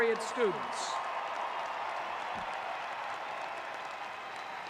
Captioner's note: audience cheering